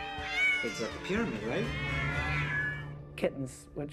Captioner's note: cats meowing